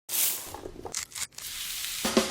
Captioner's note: zest crunching; skin cracking; oil sizzling